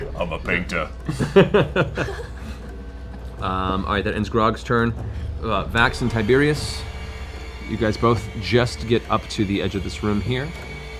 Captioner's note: laughs